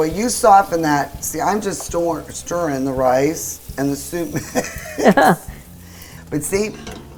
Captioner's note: laughs